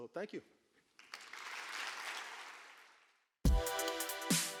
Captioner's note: applause